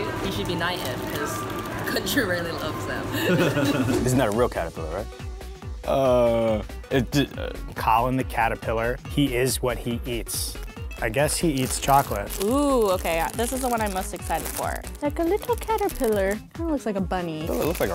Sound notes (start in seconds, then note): 3.1 laughter